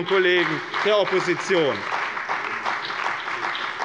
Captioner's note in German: Beifall bei dem BÜNDNIS 90/DIE GRÜNEN und der CDU